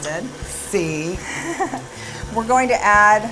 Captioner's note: laughs